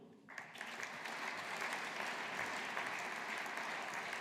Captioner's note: audience applauding